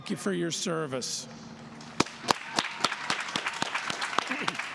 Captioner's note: applause